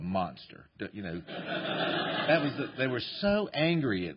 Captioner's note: laughter